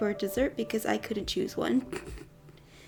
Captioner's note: weird chuckle